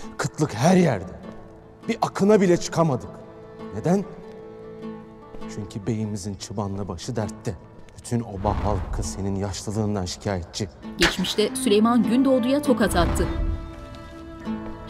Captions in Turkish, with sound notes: (Gündoğdu dış ses) Kıtlık her yerde. Bir akına bile çıkamadık. Neden? (Gündoğdu dış ses) Çünkü beyimizin çıbanla başı dertte. Bütün oba halkı, senin yaşlılığından şikayetçi. (Tokat sesi) (Müzik - Yaylılar ve dombra)